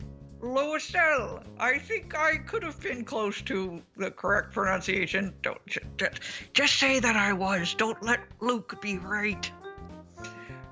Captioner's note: whispers